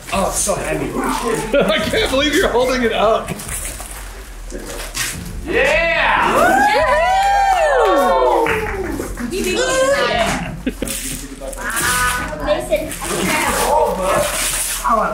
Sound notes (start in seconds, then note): 0.8 family chatters excitedly; 1.1 laughs; 10.4 laughs; 10.9 family chatters excitedly